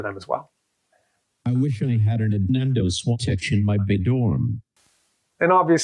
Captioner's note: AI speech